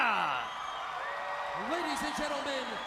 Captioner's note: crowd cheering